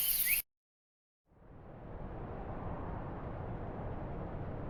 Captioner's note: wind whooshing